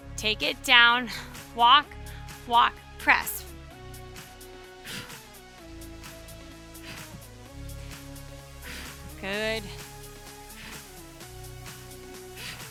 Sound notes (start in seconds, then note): 3.7 upbeat music continues; 4.2 breathing deeply